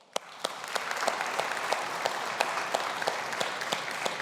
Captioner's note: audience applauding